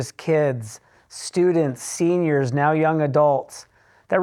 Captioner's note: none